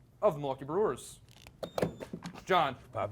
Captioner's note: beep